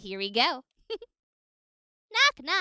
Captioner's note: giggles